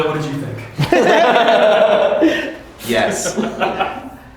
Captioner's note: all laughing